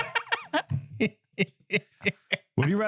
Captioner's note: laughing